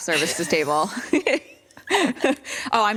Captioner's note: laughter